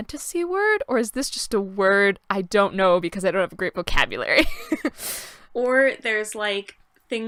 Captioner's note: laughter